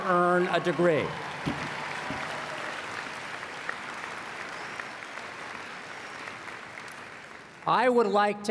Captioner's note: applause